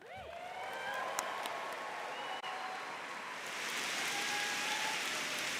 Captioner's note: audience cheering and applauding